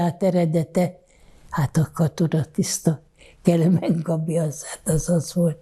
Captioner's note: laughing